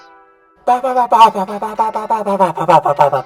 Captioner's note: barking